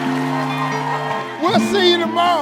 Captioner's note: upbeat music; audience cheers